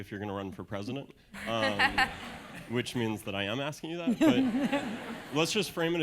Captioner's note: laugh